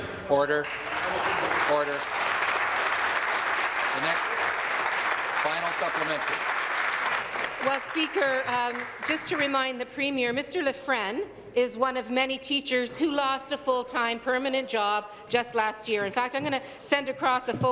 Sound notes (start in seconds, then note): 6.1 applause